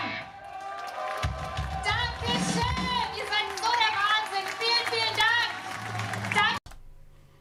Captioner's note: audience cheering